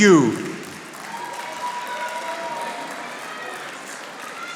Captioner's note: audience applauding